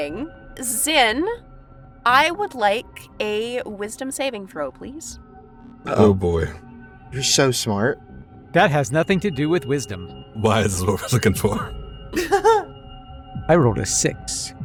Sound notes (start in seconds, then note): 12.1 laughs